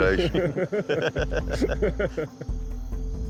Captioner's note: laughter